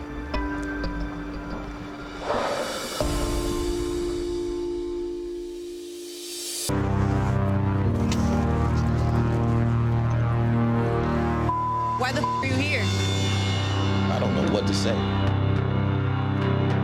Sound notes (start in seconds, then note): 2.3 exhaling sharply; 2.3 somber music continues; 6.5 foreboding music; 11.4 beep